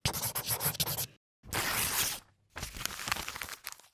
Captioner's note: pen scribbling